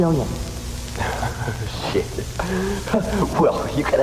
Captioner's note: laughs